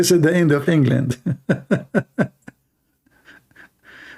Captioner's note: Ketawa